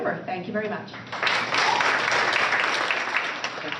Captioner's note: applause